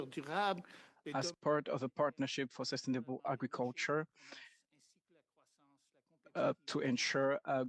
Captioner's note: speaking French